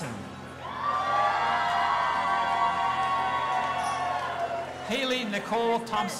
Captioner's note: audience applauding and cheering